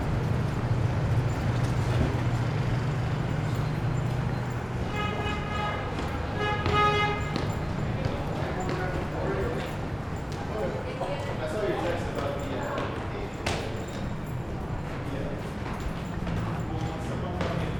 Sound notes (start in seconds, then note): 4.4 horn honking; 8.5 footsteps pattering